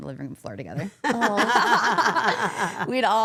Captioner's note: all laughing